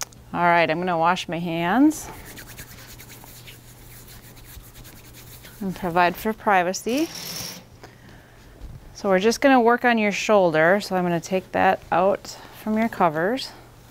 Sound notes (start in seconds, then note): 2.0 hand rubbing; 6.9 curtain whooshing